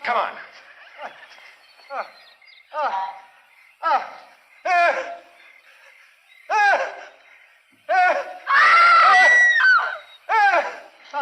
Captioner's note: screaming